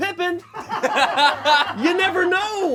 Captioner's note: and crew laugh